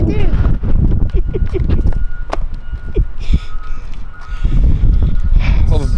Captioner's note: cameraman laughing